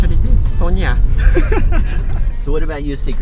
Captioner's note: laughing